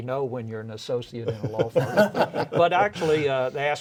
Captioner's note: all laugh